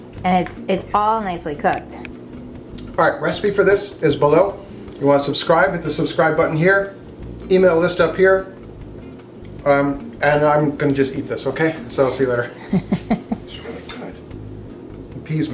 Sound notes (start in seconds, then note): 12.5 woman laughing